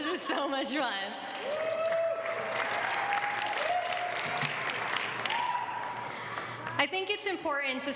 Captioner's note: applause